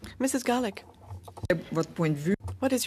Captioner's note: speaking French